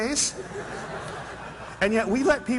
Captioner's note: laughter